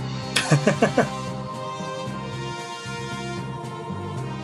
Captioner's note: laughs